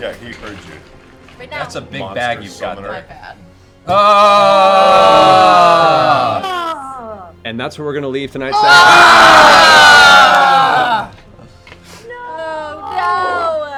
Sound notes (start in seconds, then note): 3.8 groaning; 8.8 yelling